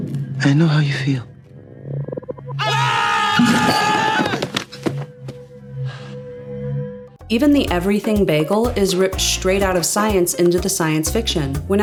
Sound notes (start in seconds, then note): 2.5 both men screaming; 5.7 Ford sighs with relief